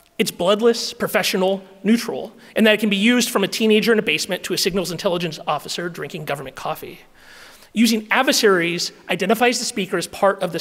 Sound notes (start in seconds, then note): none